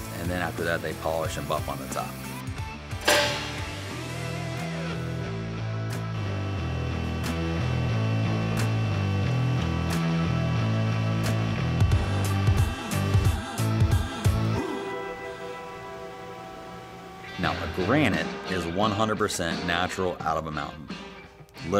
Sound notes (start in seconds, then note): 3.0 mallet clanging; 6.2 rock music